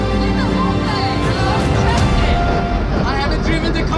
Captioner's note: upbeat dramatic music; yelling